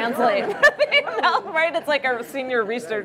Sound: laughter

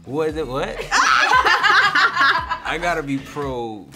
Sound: laughter

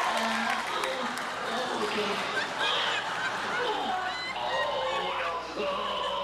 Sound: audience cheers and applauds; grunt; audience laughs; grunts

